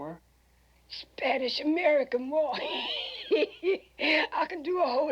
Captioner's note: laughs